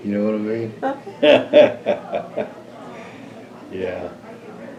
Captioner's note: laughs